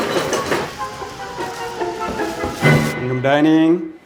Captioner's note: knocks on door